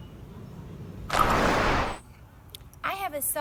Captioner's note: whooshing